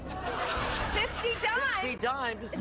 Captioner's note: audience laughing